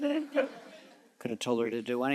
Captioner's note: audience chuckles